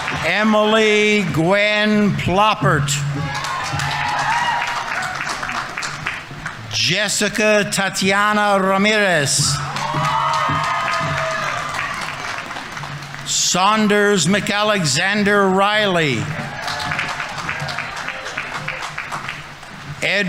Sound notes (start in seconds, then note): 0.0 audience applauding; 0.0 audience members cheering; 2.6 audience applauding; 3.4 audience members cheering; 9.7 audience applauding; 9.7 audience members cheering; 16.6 audience applauding; 16.6 audience members cheering